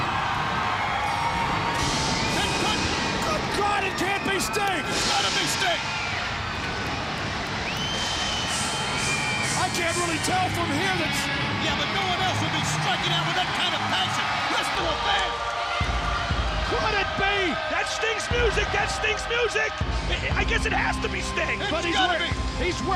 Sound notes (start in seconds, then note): 6.9 crowd cheering